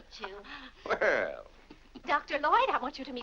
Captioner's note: chuckles